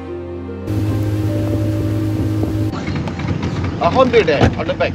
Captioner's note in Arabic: طنين محرك القارب